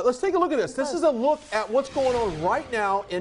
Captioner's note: wind whooshing